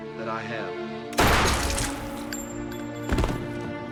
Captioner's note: gunshot